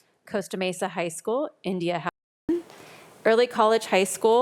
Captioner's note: audio distorts